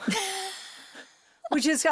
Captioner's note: Zoe laughs